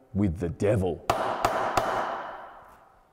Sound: gavel strikes 3 times

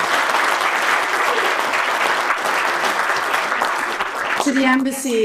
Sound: audience clapping

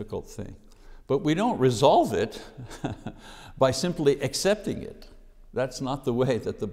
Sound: chuckling

